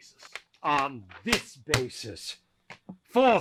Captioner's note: slam & slap